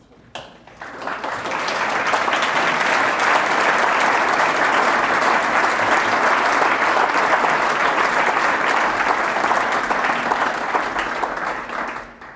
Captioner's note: applause